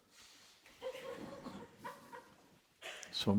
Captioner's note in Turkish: hafif kahkaha